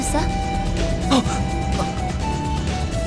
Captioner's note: gasp; clears throat